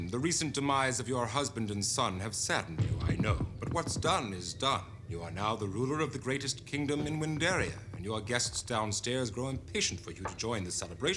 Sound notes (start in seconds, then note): none